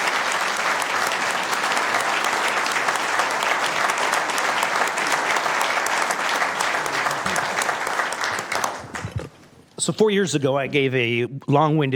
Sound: applause

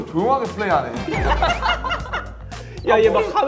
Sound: laughing

